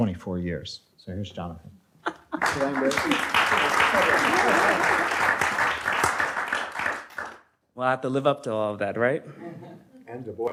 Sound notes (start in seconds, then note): 2.3 audience applauds; 9.5 light laughter